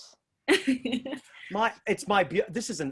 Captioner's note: laughs